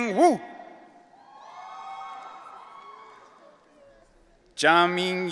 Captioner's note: audience cheering